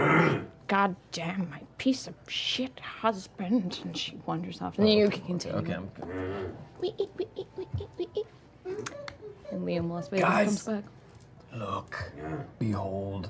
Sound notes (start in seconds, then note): 6.4 low scraping; 8.2 squeaking